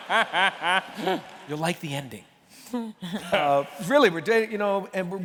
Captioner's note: laughter